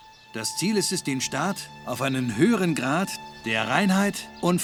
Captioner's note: speaking in German